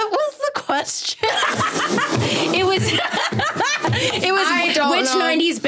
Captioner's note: everyone laughing